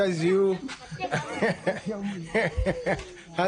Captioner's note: laughing